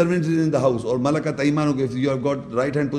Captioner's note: Arabic